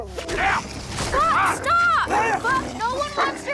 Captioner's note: Buck barking; Heep yells; Buck growling